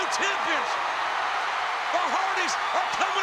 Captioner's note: audience cheering